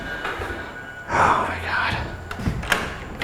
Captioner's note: sighing; door clicking